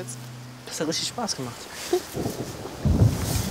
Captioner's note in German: Donnergrollen